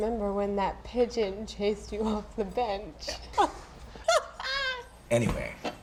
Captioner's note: laughing